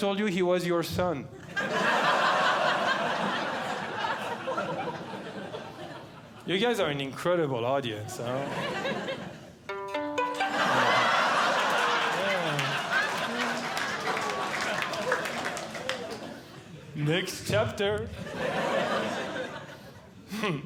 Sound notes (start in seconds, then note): 1.4 audience Laughing; 8.7 audience Laughing; 9.6 plucks Strings; 10.3 audience Laughing